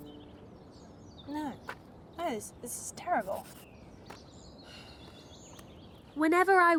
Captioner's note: sighs